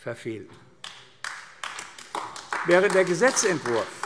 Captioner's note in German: Beifall AfD